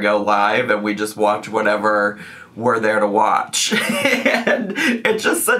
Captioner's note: laughs